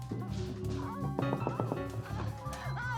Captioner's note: knocking; moaning